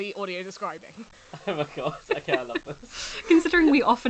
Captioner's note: laughs